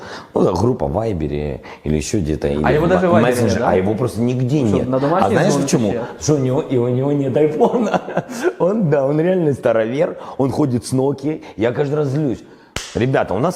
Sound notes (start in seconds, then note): 7.6 laughs